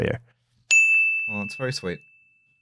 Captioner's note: ding!